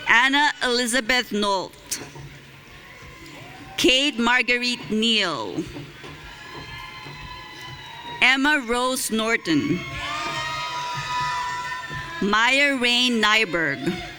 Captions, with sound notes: Anna Elizabeth Nolt. Kate Marguerite Neal. (audience cheering) Emma Rose Norton. (audience cheering) Maya Rain Neiberg.